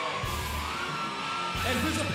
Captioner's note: crowd cheering